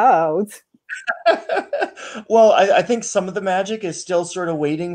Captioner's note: laughs